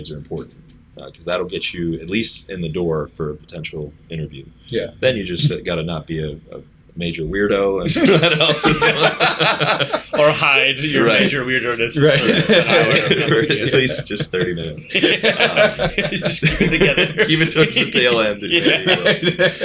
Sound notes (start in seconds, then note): 11.9 laughter